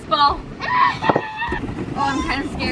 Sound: laughs

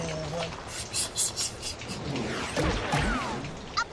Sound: Ikong spits and snickers

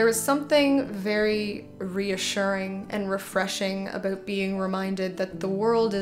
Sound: none

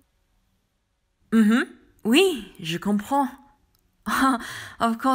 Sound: Japanese voice over; French voice over; English voice over

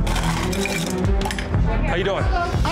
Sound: ice crunching

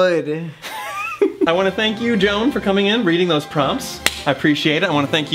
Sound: wheeze; hand slap

